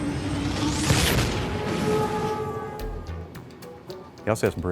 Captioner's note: dramatic music; whooshing